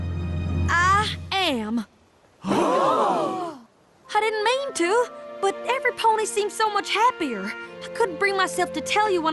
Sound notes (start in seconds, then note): 2.7 gasp